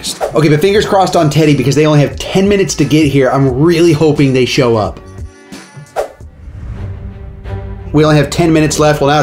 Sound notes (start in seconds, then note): 0.0 screen swooshes; 5.9 screen swooshes; 7.2 dramatic music plays